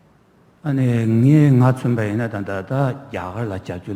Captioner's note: speaking tibetan